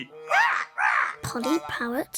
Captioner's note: squark noise